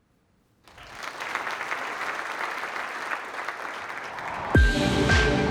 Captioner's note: applause